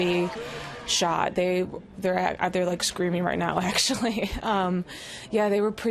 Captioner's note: laughs